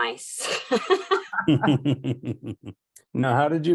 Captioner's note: all laughing